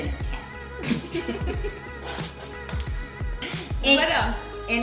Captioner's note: hushed chortling